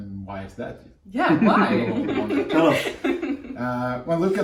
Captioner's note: laughter